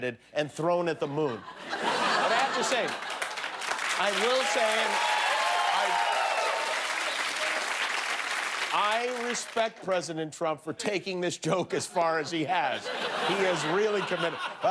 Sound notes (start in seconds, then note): 0.0 laughter; 2.4 cheers and applause; 2.9 laughter